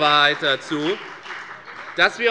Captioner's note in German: Beifall bei der FDP und bei Abgeordneten der CDU